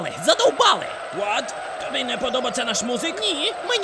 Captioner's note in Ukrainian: Поганий європейський акцент